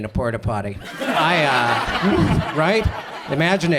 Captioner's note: audience laughs